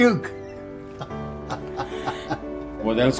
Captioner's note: laughing